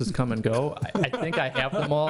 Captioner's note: laughing